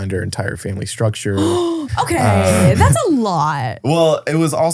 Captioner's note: gasps